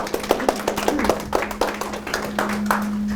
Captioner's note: applause